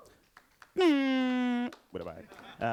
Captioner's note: audience clapping; mouth trumpet noise